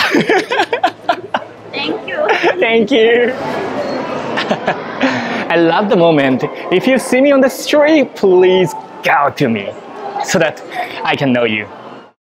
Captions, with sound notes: [LAUGHS] Thank you! Thank you! [CHUCKLES] I love the moment. If you see me on the street, please "Gao!" to me. So that I can know you.